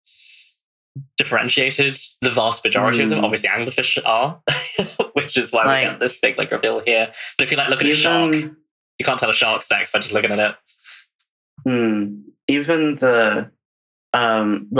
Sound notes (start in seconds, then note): 10.9 laughs